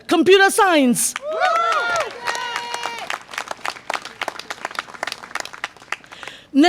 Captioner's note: audience applause and cheer